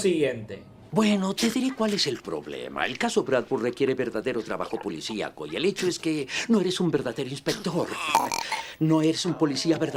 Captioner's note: cat burps